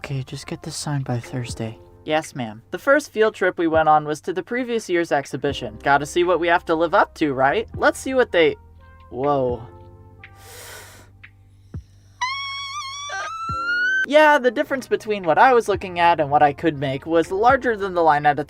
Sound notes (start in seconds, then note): 10.3 sharp inhale